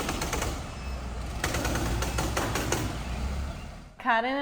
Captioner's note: tools rumbling